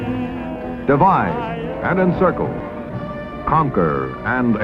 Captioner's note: television